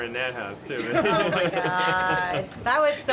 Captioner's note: laughter